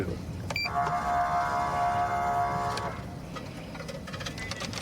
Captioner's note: horn blaring